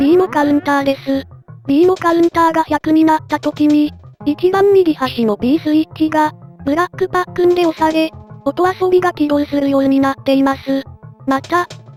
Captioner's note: activates sound effect